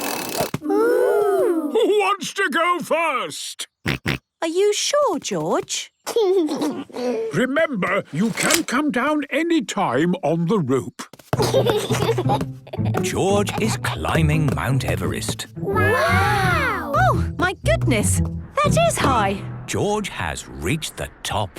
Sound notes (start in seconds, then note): 3.4 George snorts; 6.0 giggles; 11.4 giggles